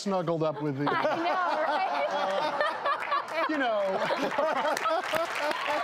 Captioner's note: laughing; clapping